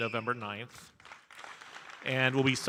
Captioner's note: audience cheering and applauding